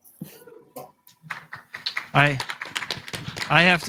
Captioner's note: applause